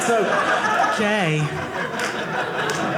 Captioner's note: audience laughing